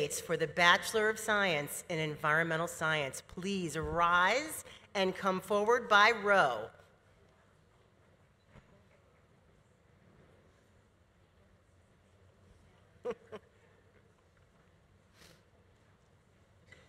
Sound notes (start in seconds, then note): 13.0 laughs